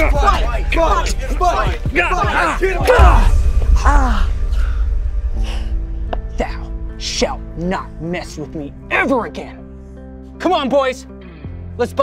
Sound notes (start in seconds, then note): 2.5 Moses grunting; 3.8 Ramses groaning